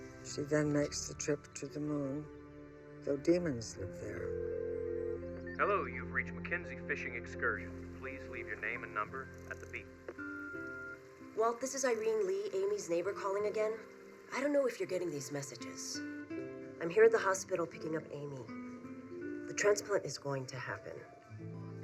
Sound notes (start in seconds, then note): 3.9 phone rings; 10.2 voicemail beeps